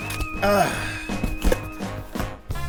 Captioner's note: sighs